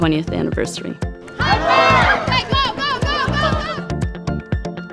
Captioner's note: kids cheering